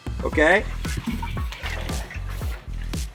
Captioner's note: laughs